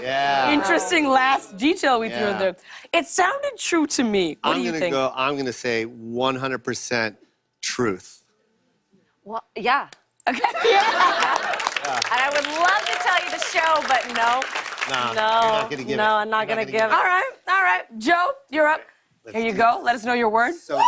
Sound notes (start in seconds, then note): 10.3 laughter and applause